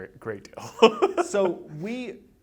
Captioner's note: laughs